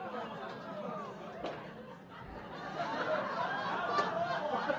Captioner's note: audience laughing